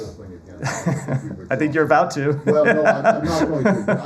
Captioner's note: laughter